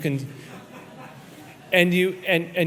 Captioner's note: audience laughs